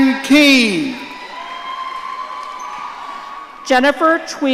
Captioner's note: audience cheering